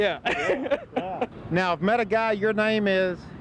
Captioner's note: laughing